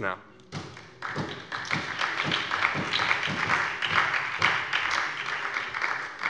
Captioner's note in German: Beifall bei der SPD und der FDP